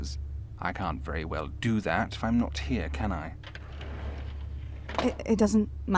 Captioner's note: drawer rattling, pages turning